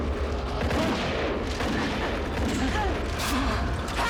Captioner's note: gunshots